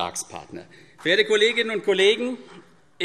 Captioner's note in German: Vereinzelter Beifall CDU